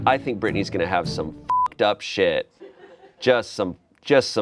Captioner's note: beep